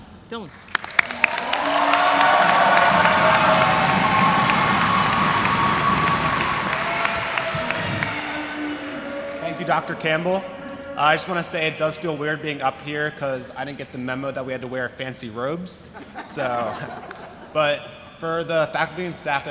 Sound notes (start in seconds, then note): 1.5 audience applauds; 1.5 audience cheers